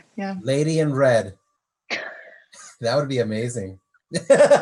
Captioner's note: laughs